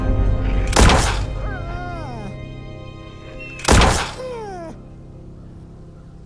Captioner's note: gun firing; wolf yelping; crows cawing